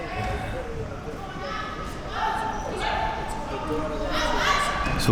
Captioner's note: athletes shouting